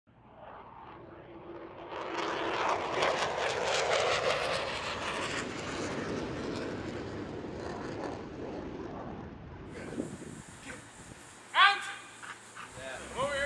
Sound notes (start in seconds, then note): 8.9 shouting; 12.2 dog panting